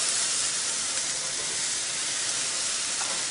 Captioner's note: sizzling